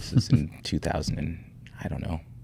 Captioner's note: chuckling